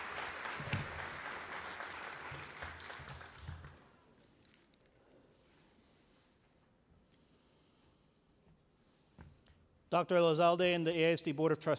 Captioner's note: cheering and applause